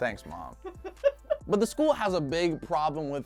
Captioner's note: laughing